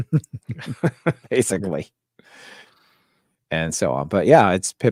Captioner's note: both laughing